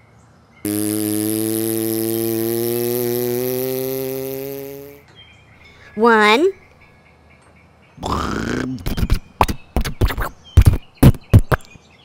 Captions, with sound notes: [ car motor ] Timmy Uppet> one [ sputtering ]